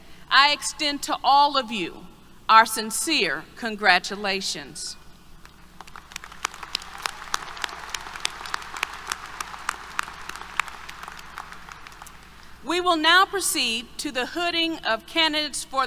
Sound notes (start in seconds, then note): 5.7 applause